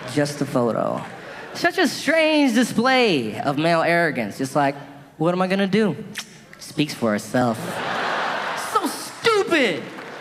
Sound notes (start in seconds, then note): 7.6 audience laughing